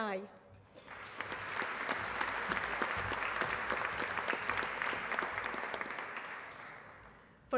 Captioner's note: applause